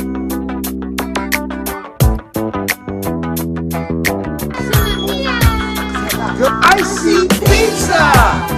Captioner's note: kids shouting